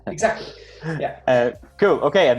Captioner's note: laughs